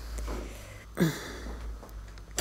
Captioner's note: groaning